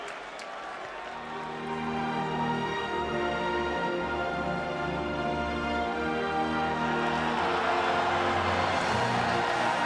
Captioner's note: crowd cheering